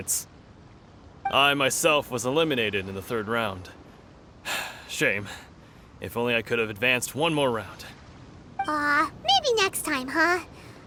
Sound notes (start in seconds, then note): 4.4 sigh